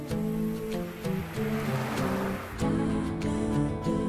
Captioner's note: car rumbling